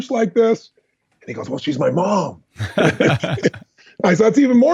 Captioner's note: laughs